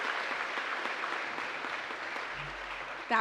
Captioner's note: applause